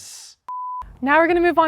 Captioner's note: beep